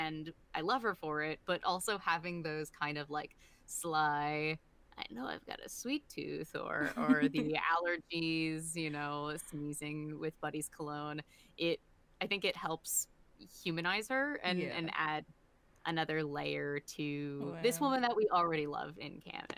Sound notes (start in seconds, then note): 3.9 in a Vespa voice